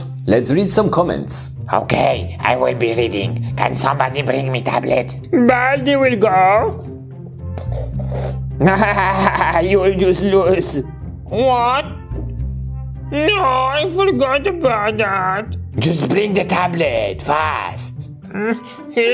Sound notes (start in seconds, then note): 8.6 granny laughing